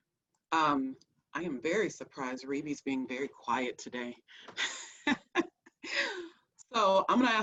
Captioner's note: laughs